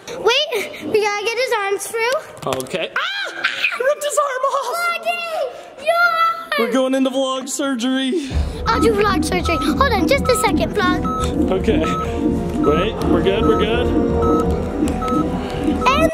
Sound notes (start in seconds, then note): 8.6 ominous music; 8.6 vitals monitor beeping